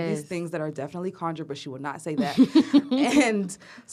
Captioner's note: laughter